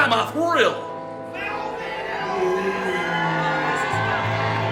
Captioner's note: crowd cheers